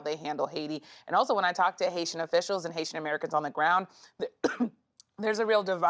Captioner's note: coughs